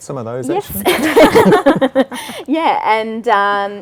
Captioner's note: laugh